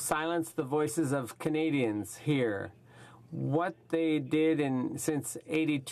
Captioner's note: speaking French